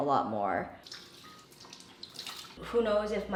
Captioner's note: water trickling